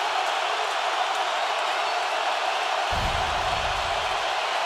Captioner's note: crowd roaring